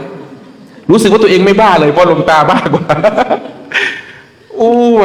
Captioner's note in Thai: เสียงหัวเราะ